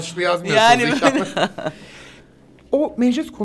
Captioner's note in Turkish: Gülüyorlar